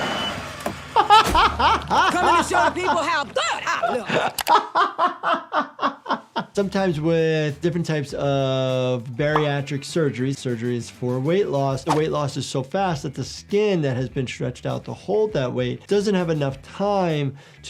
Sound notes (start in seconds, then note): 0.9 laughter